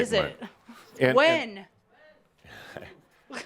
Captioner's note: someone shouts “When?!”